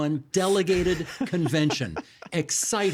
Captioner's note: laughing